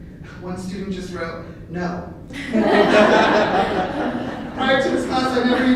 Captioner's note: laughter